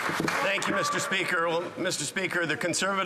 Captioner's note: some Applause